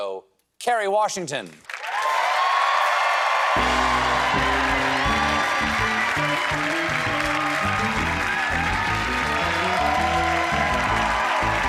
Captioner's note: cheers and applause